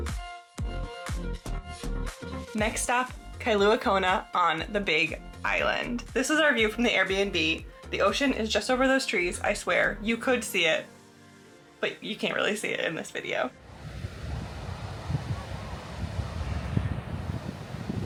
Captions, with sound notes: next up Kailua Kona on the Big Island this is our view from the Airbnb the ocean is just over those trees I swear you could see it but you can't really see it in this video [waves and wind]